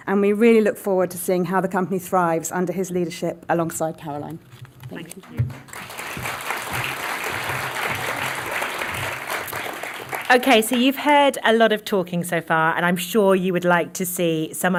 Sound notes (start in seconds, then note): 5.0 applause